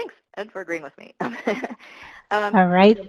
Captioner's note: laughs